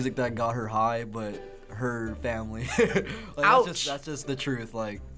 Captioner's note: chuckling